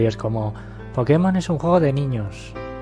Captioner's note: mockingly